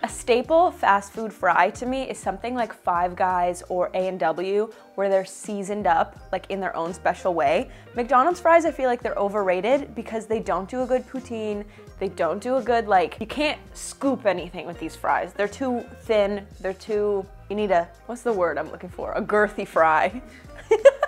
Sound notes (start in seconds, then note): 20.4 laughs